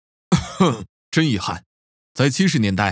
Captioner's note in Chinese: 咳嗽